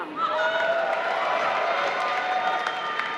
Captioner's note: applause